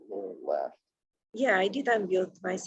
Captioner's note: murmurs